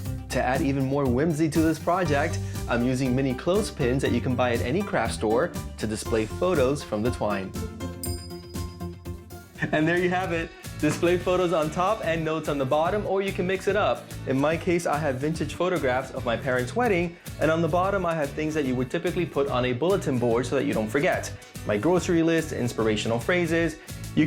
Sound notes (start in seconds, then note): 7.2 bell chiming